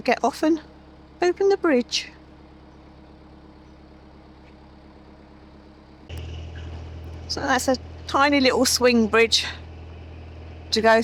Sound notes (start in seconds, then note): 3.8 sound of a train passing